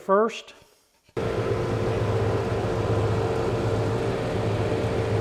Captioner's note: drum sander sanding